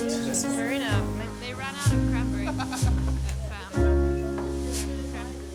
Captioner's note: laughter